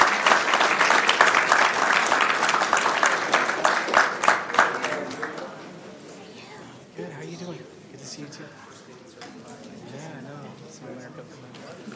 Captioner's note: applause